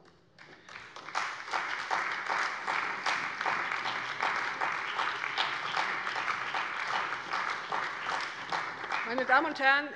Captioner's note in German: Beifall bei der CDU und dem BÜNDNIS 90/DIE GRÜNEN